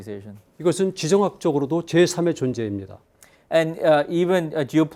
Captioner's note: speaking in Korean